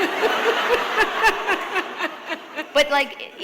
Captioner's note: laughter